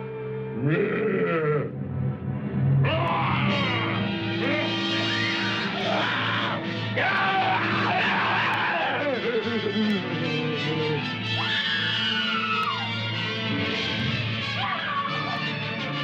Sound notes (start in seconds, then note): 0.5 groans; 2.8 screams